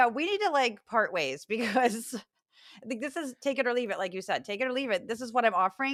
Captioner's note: laugh